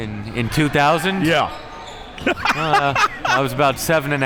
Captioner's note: laughs